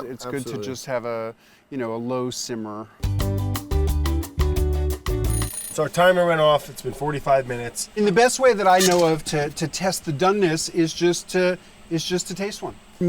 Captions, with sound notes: It's good to just have a low simmer. [bright music] [timer rings] - So our timer went off, it's been 45 minutes. - And the best way that I know of to test the doneness is just to to taste one.